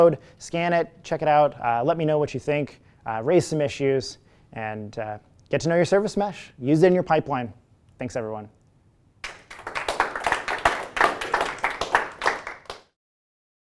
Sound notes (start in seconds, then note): 9.2 applause